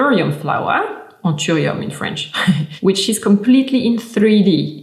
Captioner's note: chuckling